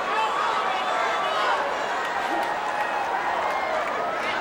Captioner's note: audience cheering